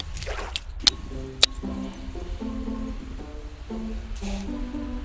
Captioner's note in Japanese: 弾ける音